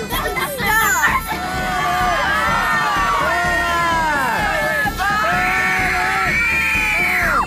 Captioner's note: crowd shouting 'Burn her!'